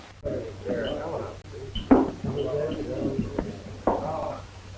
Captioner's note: people chattering